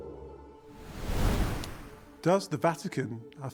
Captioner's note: wind whooshing